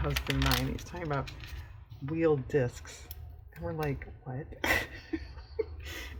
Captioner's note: laughs